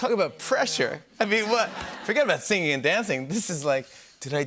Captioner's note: laughter